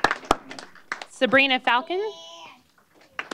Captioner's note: applause